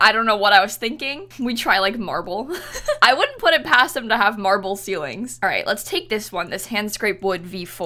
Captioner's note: laughs